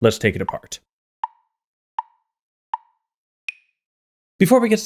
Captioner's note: tick, tick, tick, tick, tock